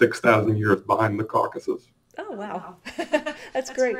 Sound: laughs

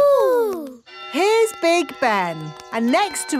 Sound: clock chimes

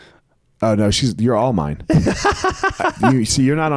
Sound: laughs

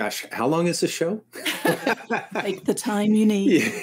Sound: both chuckle

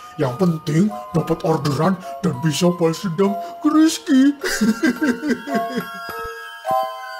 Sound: laugh

